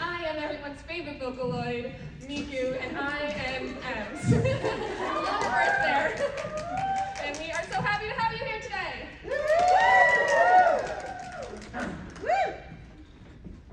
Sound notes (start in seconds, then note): 9.2 collective cheering